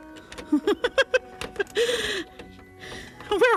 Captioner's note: laughing